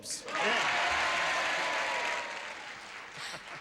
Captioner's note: cheering